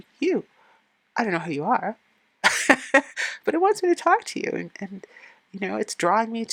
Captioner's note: laughing